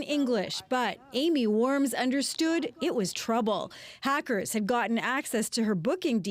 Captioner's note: speaking Alternate Language